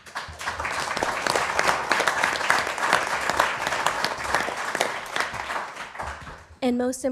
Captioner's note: applause